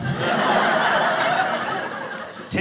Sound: audience laughing

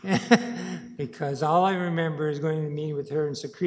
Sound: laughing

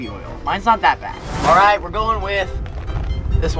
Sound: air whooshing

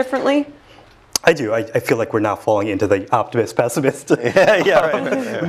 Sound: laugh

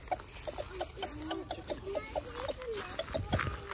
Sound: chicken clucking

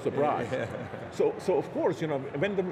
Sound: chuckling

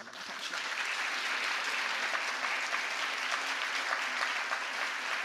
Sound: audience applauds

